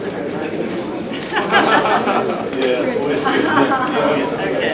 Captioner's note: laughing